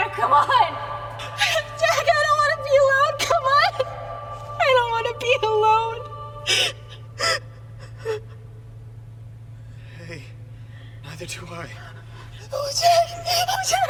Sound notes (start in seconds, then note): 8.5 sobbing